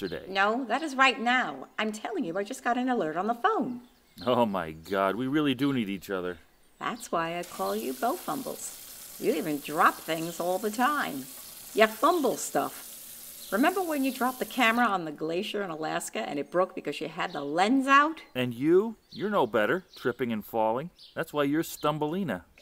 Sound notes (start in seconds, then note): 7.4 kitcen faucet turns on; 17.3 kitcen faucet turns off